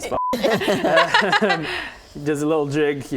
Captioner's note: laughs